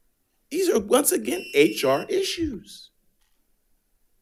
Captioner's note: alarm chiming